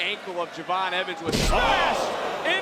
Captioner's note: body thudding